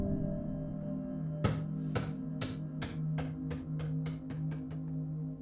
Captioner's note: soundtrack creating sensory ambience; sound of basketball ball falling to the floor; soundtrack creating sensory ambience